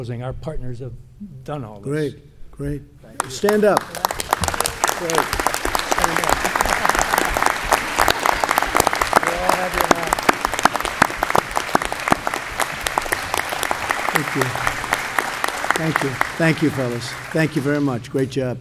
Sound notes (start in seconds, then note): 3.2 applause